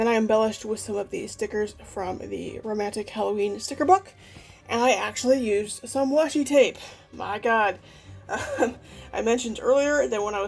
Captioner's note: laughs